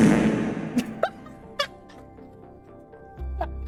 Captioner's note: laughs so hard her mic cuts them out